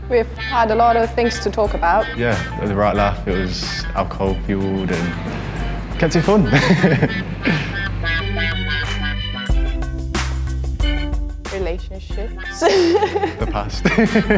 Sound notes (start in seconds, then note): 4.6 laughs; 12.4 laughs